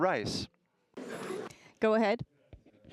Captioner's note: audience laughing